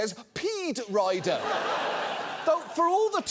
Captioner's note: audience laughs